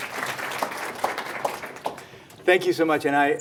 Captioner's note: applause